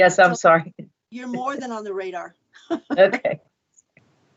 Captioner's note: laughs